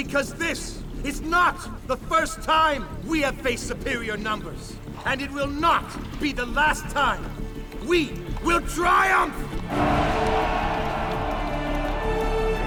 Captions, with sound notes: because this is not the first time we have faced superior numbers and it will not be the last time we will triumph. [cheering]